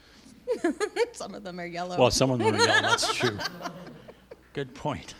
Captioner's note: laughter